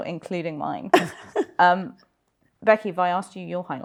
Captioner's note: chuckles